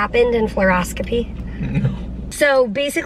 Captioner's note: chuckles